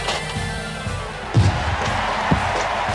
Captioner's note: crowd cheering